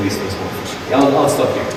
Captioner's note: audience applauding